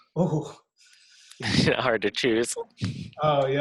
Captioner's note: chuckles